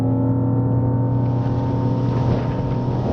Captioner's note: revving